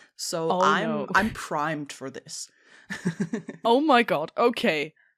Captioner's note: laughs